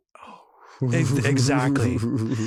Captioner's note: chuckles